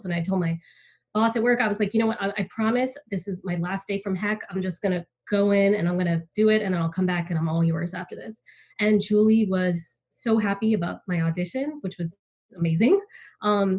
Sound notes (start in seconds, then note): none